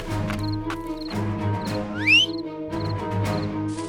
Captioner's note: whistle